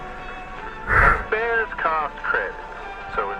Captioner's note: sigh of relief